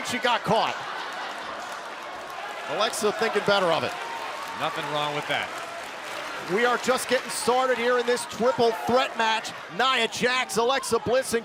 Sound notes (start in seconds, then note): 1.5 crowd cheering